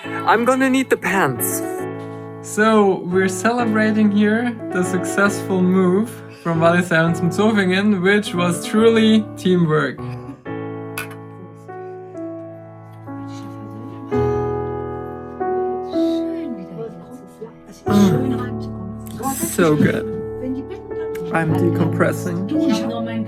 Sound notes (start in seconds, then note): 13.1 chatting in German